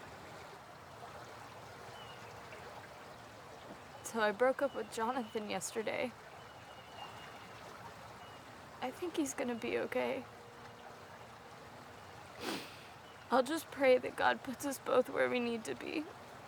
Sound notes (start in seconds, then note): 0.0 water burbles; 12.4 sniffs